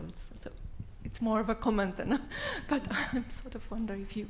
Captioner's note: laughs